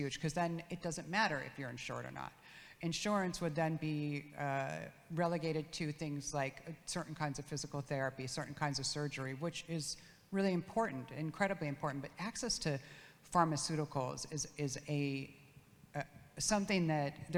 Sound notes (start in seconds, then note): none